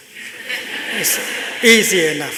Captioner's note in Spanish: Risas